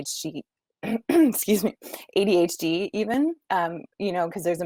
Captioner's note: clearing throat